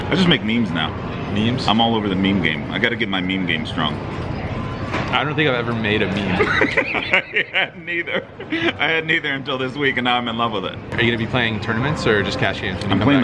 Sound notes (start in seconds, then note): 6.3 laughing